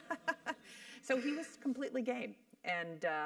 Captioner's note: laugh